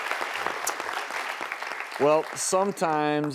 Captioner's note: audience applauding